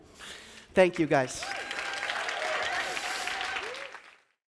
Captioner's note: audience cheers